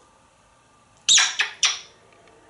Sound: kissing sound

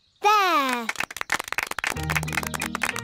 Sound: applause

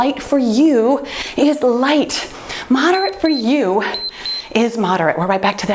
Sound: timer beeps

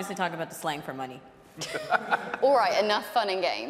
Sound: hosts laughing; audience laughing

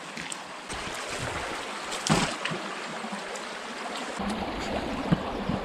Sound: water sloshing

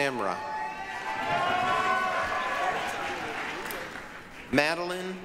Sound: applause, cheering

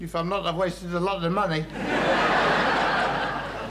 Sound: audience laughing

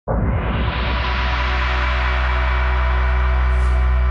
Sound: air whooshing

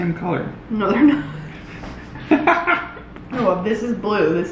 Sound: laughs

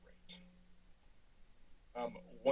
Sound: silence

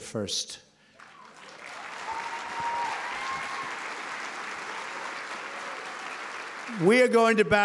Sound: applause

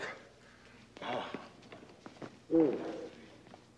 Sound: groaning

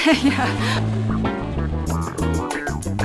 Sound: laughs

